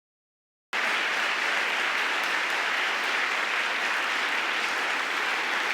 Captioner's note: audience applauding